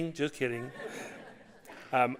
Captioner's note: audience laughing